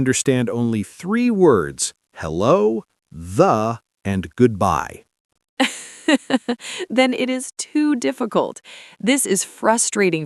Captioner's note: laughs